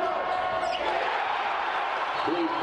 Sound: audience chanting; cheering

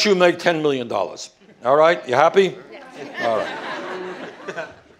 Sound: laughter

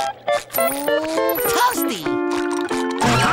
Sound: none

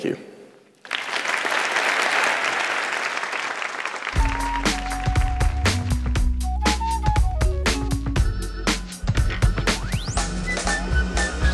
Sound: applause

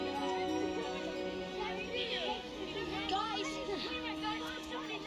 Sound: goonies arguing

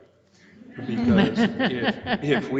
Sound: laughing

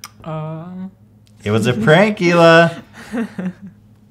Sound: giggling

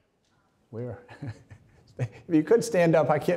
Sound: laughs

